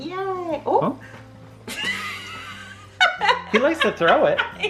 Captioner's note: laughs